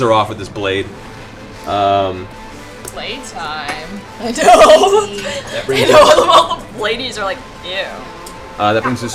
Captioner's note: laughs